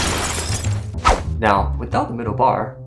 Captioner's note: glass Shattered